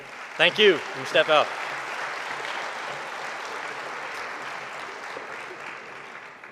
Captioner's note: audience applauding